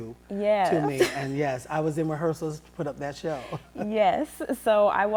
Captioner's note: laughs